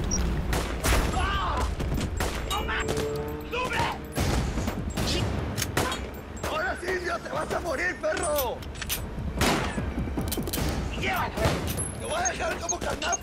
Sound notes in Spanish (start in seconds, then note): 0.0 Bips; 0.4 Disparos; 5.8 Disparos; 9.4 Disparos